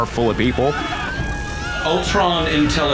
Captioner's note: distressed shouting